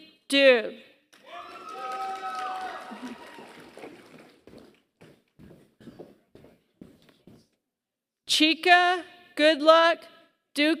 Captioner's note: applause